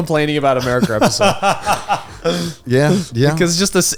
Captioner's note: laughs